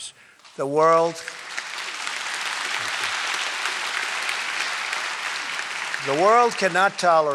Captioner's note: applause